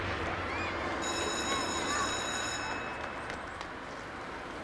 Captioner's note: school bell rings